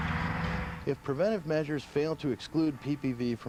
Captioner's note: voiceover